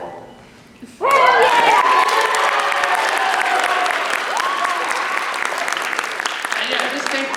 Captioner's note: cheering